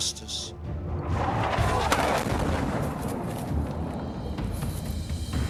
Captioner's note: missile whooshing